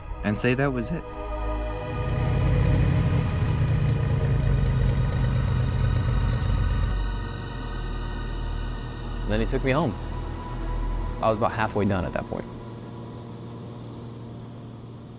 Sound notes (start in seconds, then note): 1.6 sound of airplane